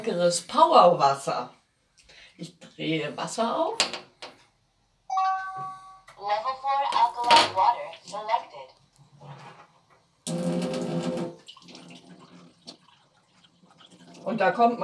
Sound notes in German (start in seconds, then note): 5.5 Gerät spricht; 10.2 Wasser läuft ein